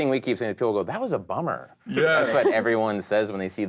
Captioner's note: all laughing